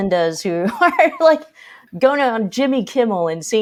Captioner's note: chuckles